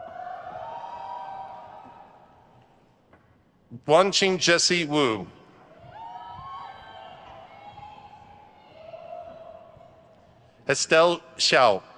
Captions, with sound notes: (crowd cheers) Wanqing Jessie Wu. (crowd cheers) Estelle Xiao.